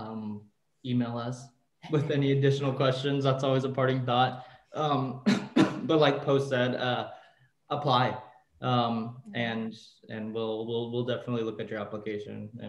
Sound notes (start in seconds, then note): 4.9 coughs